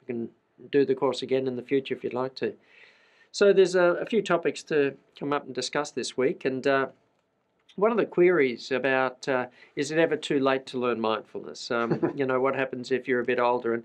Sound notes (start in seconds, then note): 11.8 laughs